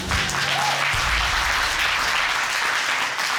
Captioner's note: applause